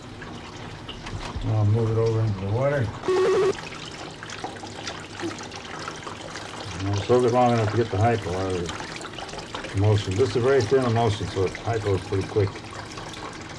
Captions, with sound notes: Move it over into the water. [BUZZING/BEEPING] Soak it long enough to get the hypo out of it, most of it. This is a very thin emulsion so it hypos pretty quick.